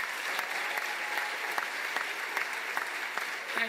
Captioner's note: cheers and applause